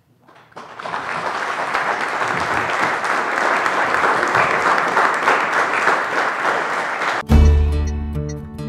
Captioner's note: applause